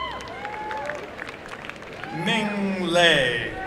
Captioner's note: applause and cheering